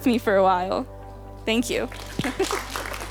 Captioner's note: people applauding; laughs